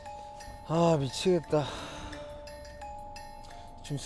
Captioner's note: just sighing away